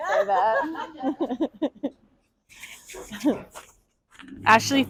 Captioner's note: and the audience laughs